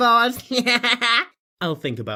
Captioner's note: laughs